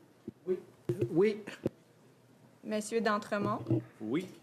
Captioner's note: speaking French